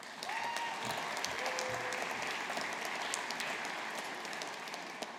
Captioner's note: audience applauding